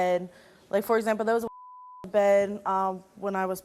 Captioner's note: beep; beep